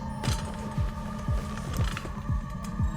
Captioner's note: chair clanks